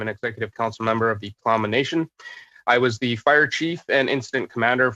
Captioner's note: speaking alternate language